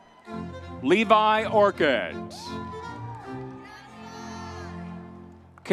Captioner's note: crowd cheering